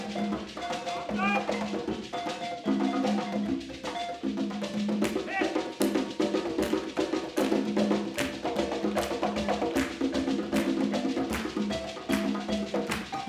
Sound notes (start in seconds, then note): 0.1 upbeat balafon music continues; 7.2 attendees clapping